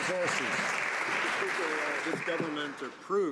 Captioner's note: some Applause